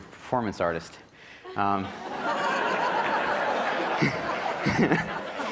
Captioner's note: laughter